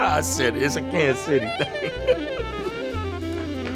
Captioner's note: laughs; jazz music